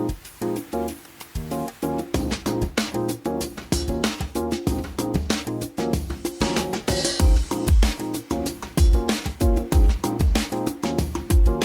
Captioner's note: swooshing sound